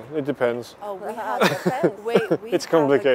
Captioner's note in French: Rires